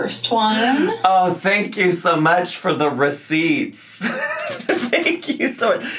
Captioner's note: laughs